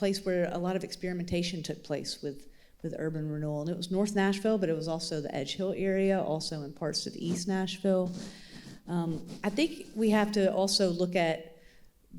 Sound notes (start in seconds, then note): none